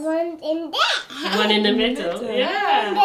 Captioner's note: giggles